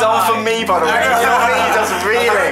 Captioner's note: they laugh